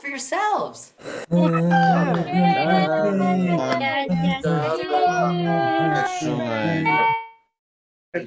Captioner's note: applause